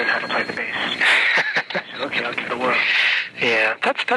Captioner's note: man laughing